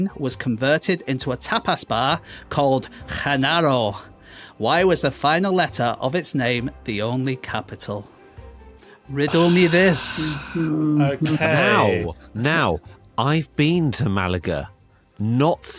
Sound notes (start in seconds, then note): 9.2 sighs